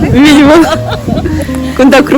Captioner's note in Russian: очень довольный смех